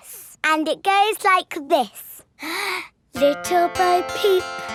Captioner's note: inhales